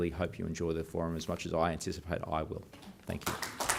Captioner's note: applause